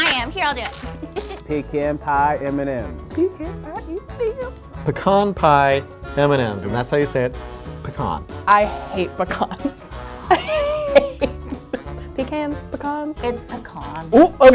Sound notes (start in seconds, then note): 0.9 laughing; 10.3 laughing